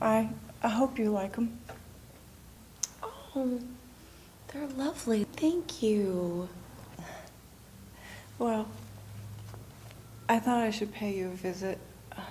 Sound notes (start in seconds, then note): none